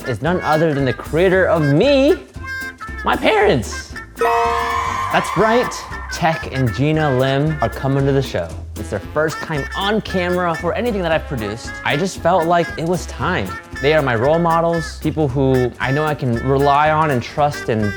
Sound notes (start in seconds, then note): 4.2 crowd cheering; 4.2 bell dinging